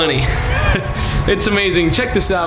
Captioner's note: chuckles